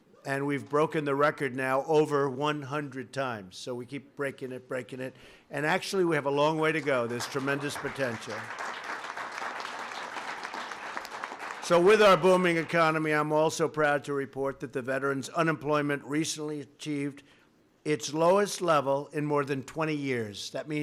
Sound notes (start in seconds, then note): 8.6 applause